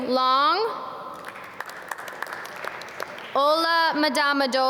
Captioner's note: audience clap